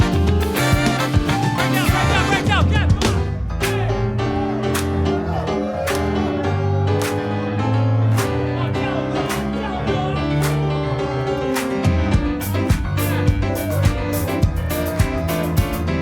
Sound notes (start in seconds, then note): 3.8 lively keyboard music; 4.6 audience clapping